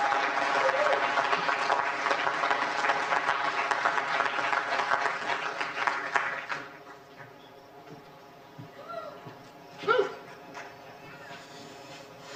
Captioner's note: applause